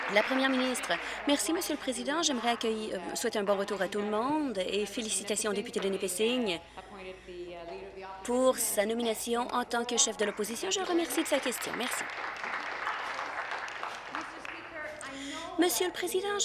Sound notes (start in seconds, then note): 2.6 applause